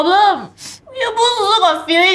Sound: sniff

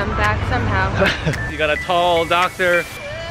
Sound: laughter

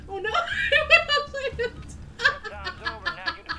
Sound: laughs hysterically

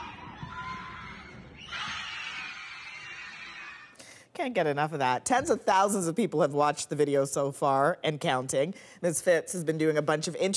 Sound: cheers and Applause

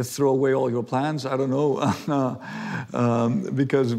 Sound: laughs

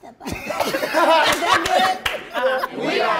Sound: cast laughing

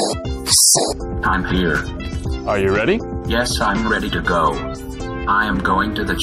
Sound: robot voice

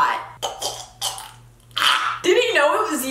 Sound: gagging

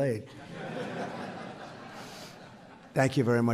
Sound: audience laughs

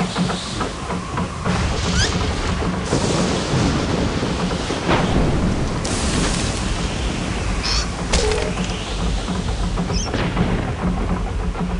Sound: wind howls; thunder crashes, rain drops splash

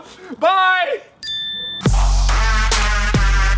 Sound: bell dings; upbeat music

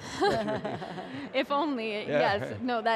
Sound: chuckling; laughing

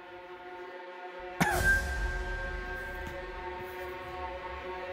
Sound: coughs

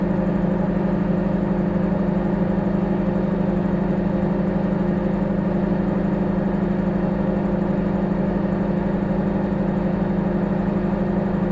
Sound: microwave humming

